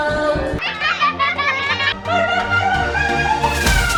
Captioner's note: children laughing